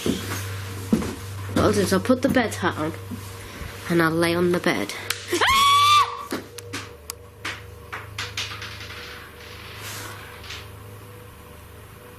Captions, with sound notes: What I'll do is I'll put the bed hat on and I'll lay on the bed. (screaming) (small item rattling)